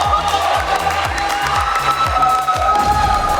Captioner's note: clapping